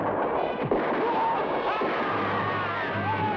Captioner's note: man shouts; men shout